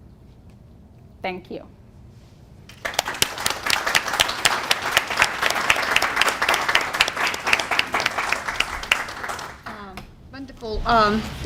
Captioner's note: applause